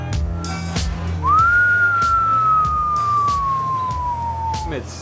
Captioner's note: whistling